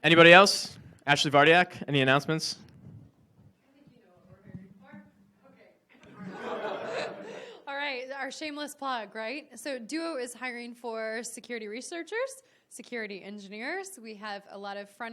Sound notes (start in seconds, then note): 3.9 speaking away from mic; 6.0 audience laughs